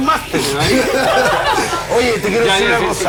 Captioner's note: laughs